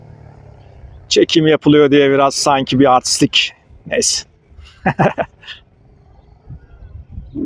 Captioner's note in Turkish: kahkaha